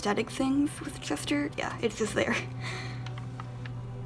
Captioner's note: laughs